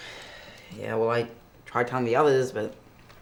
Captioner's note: sighing